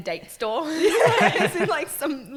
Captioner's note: laughing